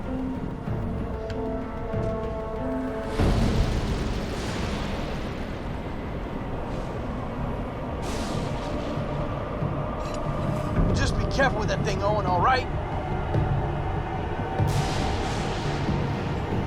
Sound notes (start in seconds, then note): 3.0 lightning crashes